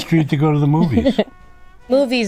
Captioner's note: laughs